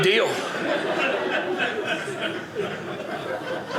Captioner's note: audience laughing